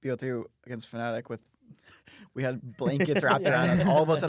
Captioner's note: laughs